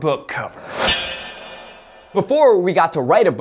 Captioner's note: metal clang